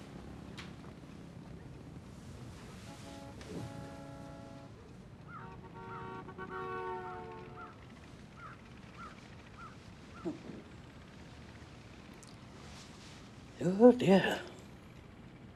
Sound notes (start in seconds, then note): 2.7 vehicle horns honking; 3.3 bird cawing